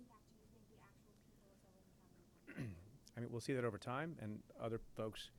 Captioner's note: clears throat